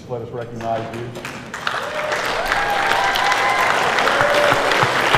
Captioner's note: cheers and applause